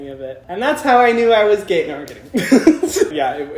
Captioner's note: laughs